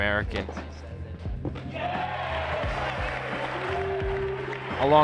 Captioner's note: crowd cheers